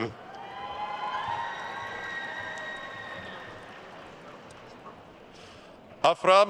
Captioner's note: attendees cheering and applauding